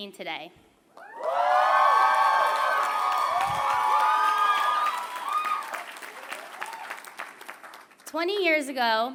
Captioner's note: applause